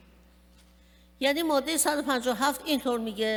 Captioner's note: speaking persian